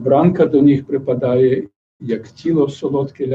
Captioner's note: non-english speech